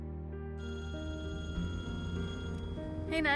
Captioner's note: cell phone rings